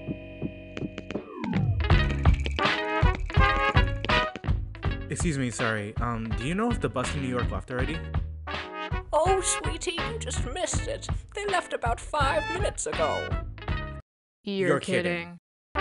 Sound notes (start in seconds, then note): 0.4 slow footsteps